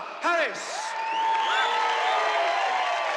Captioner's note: crowd cheers